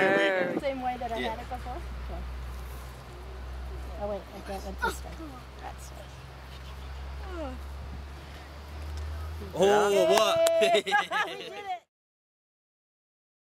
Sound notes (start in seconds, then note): 3.9 talking; 9.5 laughing and cheering